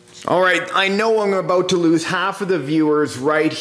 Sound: none

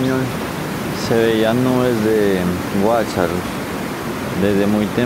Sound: nocturnal birds

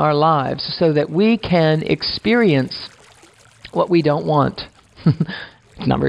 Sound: chuckles

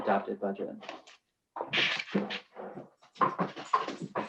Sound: loud clatters

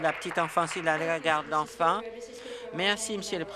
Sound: applause

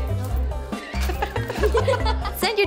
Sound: laughing

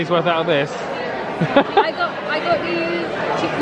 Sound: laughs

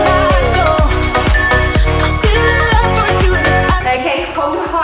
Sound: alarm beeping

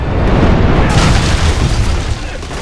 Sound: cannon ball hits roof

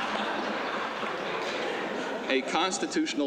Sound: laughter

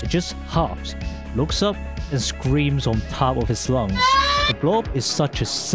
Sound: Wednesday Dude scream

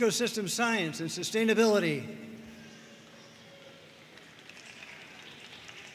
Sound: audience cheering and applauding

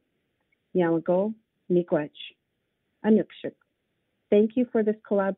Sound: speaks in foreign language

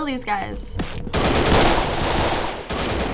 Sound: gunfire

